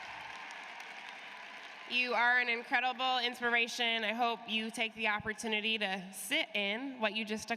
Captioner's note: cheers and applause